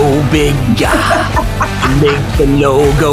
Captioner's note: laughs